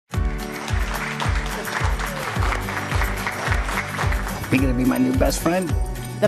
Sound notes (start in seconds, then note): 0.1 upbeat music; 0.2 clapping